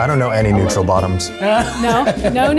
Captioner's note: laughs